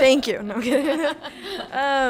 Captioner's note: laughs